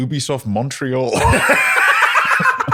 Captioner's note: laughter